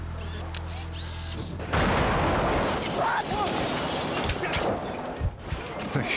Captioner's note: explosion